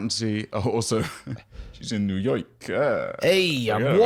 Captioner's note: new York accent; NY accent